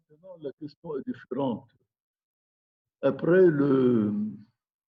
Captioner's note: speaking in foreign language